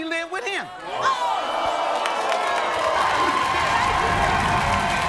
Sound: audience cheers

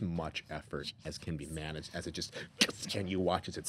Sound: crackling

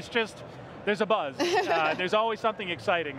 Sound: laughs

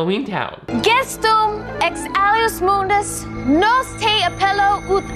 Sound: Marnie recites magic spell

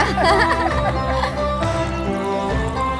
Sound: both laugh; gentle music

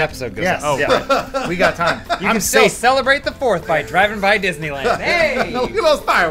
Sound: laughing

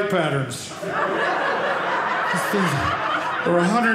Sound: audience laughing

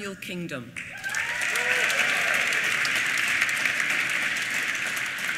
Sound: applause

